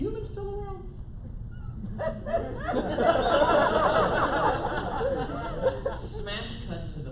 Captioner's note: laughter